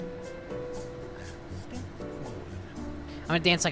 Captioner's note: whispering